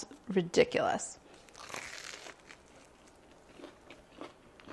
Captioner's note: bread crunching